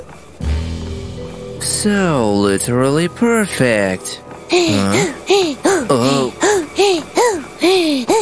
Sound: heavy breathing

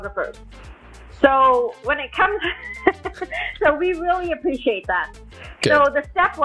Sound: laughs

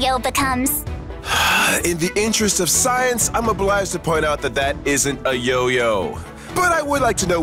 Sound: sigh

